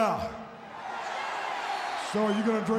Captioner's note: audience cheers